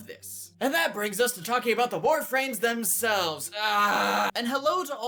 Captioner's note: aaaaaaahhh